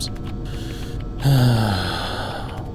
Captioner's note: sigh